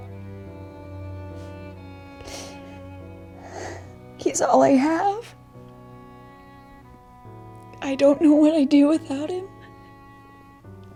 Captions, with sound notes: (Carol crying) He's all I have. I don't know what I'd do without him.